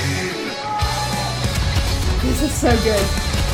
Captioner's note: explosions blasting